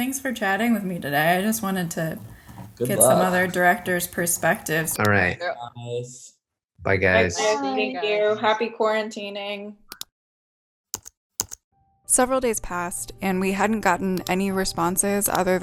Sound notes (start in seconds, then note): 11.4 keys clacking